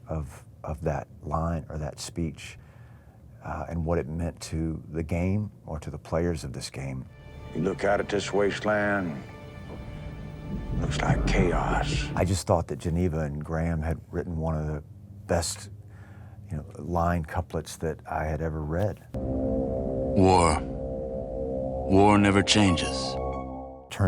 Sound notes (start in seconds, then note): 9.7 dramatic music; 10.4 explosions booming; 19.1 suspenseful music